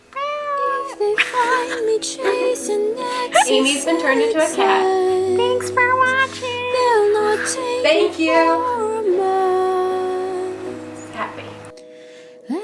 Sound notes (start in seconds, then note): 4.7 still voicing cat